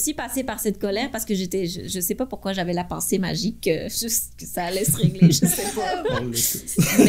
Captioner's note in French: rires